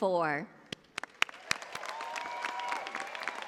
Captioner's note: cheers and applause